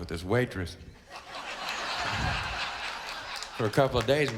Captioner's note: crowd laughs